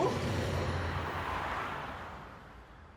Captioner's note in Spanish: ruidos del tráfico